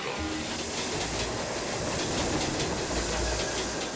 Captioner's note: train clacking